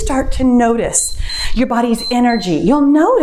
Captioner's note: timer beeps